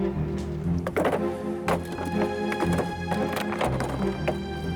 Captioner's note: stones clatter